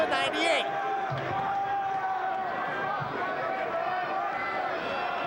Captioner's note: crowd chattering